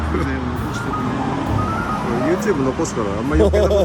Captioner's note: laughs